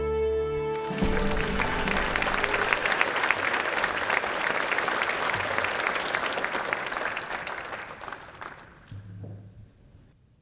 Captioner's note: applause